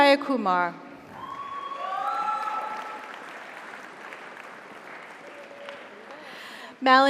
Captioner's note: audience cheers; audience applauds